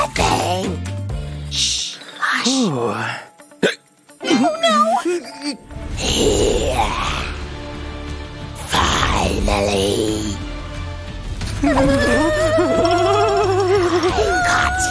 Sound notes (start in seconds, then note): 2.9 hick